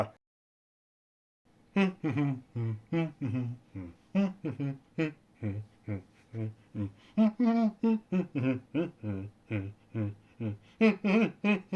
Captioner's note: humming